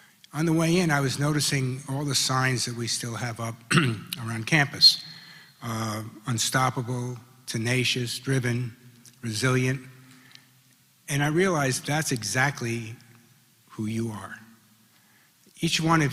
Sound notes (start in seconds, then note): 3.6 cough